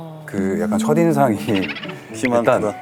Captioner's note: hahaha